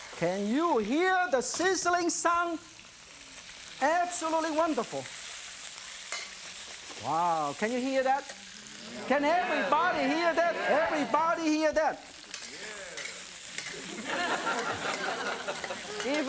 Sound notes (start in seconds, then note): 8.6 audience agreeing; 13.4 audience laughing